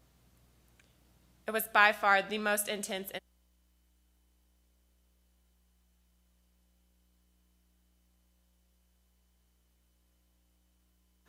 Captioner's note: loss of Audio